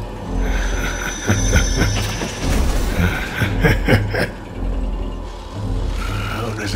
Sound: Tigatron chuckles

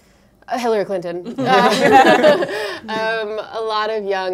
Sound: laughter

